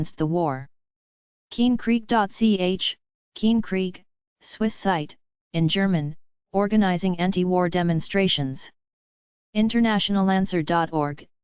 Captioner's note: in German